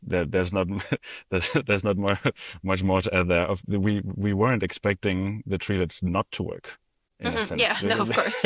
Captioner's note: laughter